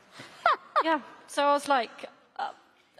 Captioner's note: laughter; laughter